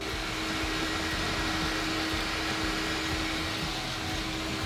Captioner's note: vacuum whirling